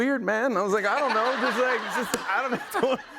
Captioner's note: laughter